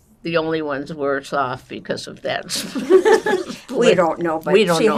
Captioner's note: laughing